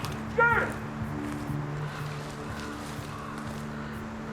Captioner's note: distant yell; yelling